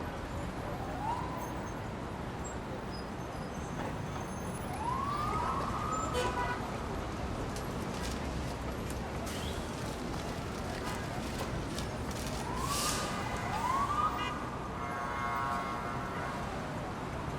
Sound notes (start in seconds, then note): 0.1 pedestrians chattering indistinctly; 4.6 sirens blaring in the distance; 6.4 car horn honking; 11.4 paper rustling; 12.3 sirens blaring in the distance